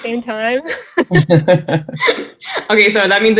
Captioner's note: group laughing